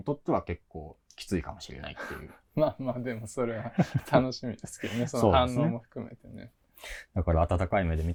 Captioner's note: laugh